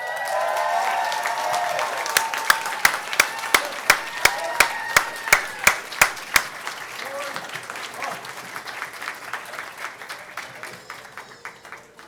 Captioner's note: applause